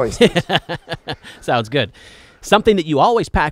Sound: laughs

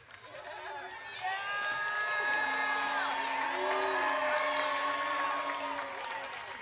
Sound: audience cheers

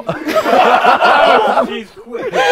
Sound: people laughing

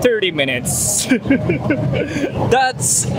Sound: laughs

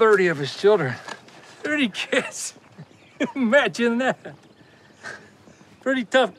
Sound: laughing

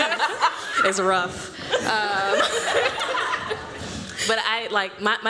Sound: laughter

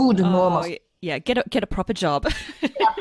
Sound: laughs

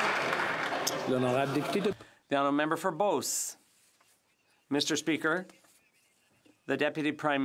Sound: some Applause

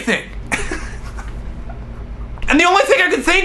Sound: laughs

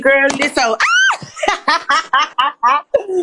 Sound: laughs

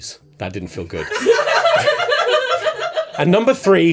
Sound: laughter

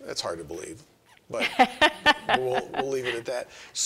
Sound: laughing

